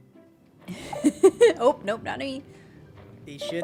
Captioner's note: laughs